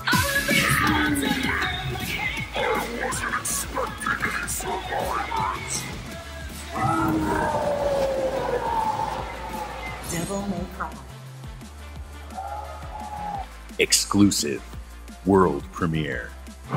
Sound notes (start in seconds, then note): 6.6 roars loudly